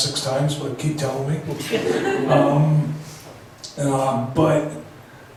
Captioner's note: laughs